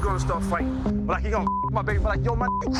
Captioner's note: beep